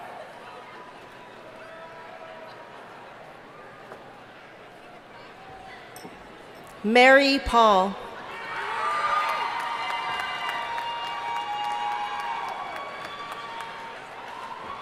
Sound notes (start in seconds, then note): 8.3 audience cheering and applauding